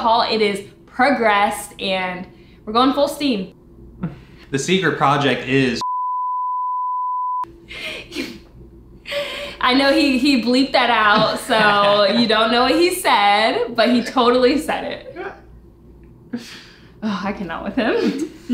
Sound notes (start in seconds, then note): 5.8 loud beep